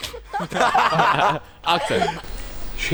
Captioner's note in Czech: Smích